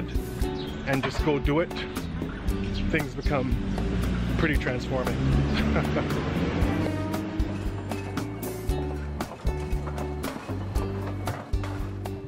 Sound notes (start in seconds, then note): 4.9 car engine roaring; 7.8 upbeat music